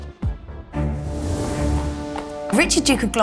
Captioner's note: horses trotting